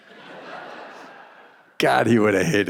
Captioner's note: audience laughing